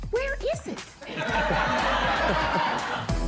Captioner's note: laughter